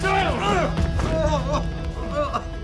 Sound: Ray cries

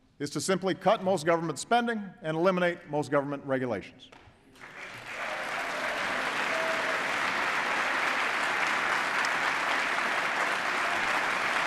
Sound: applause

